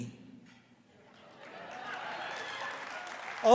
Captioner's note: laughter